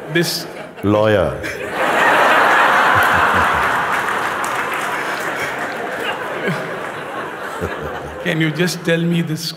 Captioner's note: Lachen und Applaus